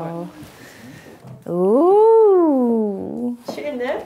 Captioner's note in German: bewundernd